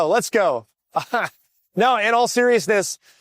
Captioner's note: laughs